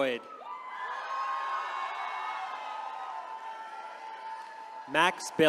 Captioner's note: attendees cheering